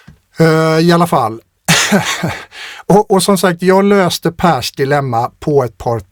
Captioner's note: laughter